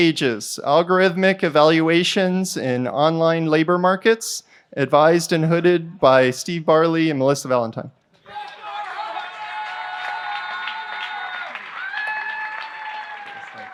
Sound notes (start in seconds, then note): 8.3 applause